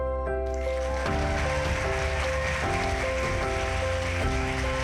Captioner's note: audience applauding